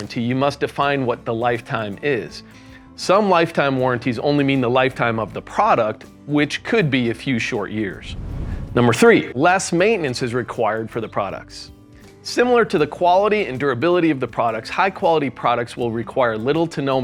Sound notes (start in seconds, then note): 7.9 air whooshing